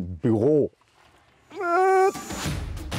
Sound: he groans; dynamic music

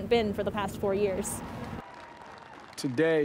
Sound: crowd cheering

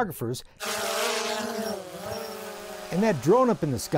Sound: buzzing sound

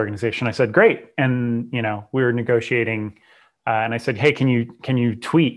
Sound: breath

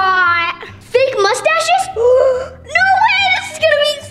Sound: gasps

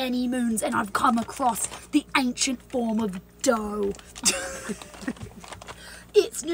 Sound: laughs

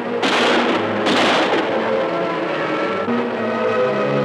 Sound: guns firing

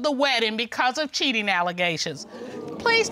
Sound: audience exclaiming

